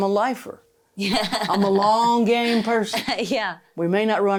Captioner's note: laughing